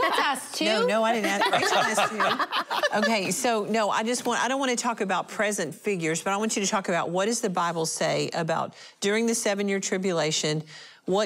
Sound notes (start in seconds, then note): 2.7 laughter